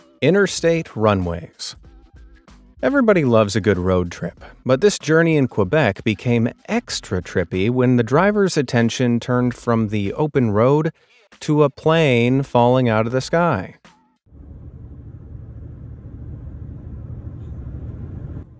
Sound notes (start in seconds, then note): 14.3 car engine revving